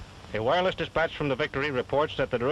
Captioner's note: man on radio